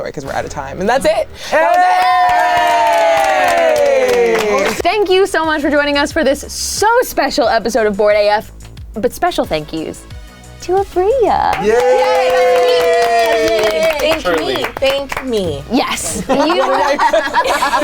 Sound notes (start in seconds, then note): 1.4 cheering; 11.5 everyone cheering; 16.0 everyone laughing